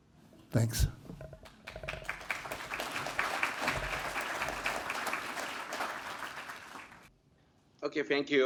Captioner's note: applause